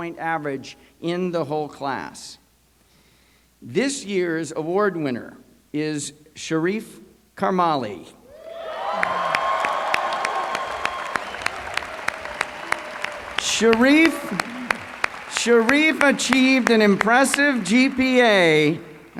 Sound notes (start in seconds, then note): 8.3 applause